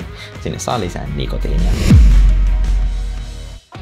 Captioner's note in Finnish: siirtymä-äänitehoste